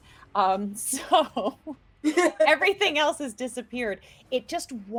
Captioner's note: chuckles